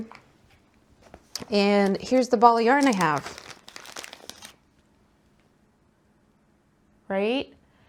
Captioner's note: plastic crincles